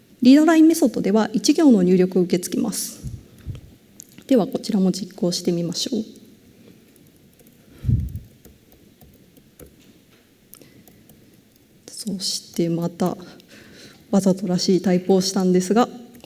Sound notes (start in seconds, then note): 7.8 silence